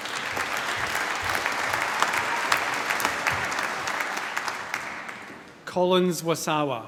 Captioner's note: applause